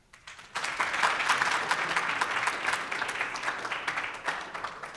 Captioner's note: audience appladus